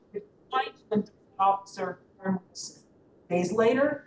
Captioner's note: audio cuts in and out